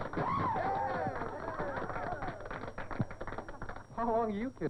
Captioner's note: applause from gathered dancers